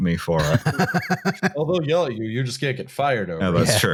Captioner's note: laughs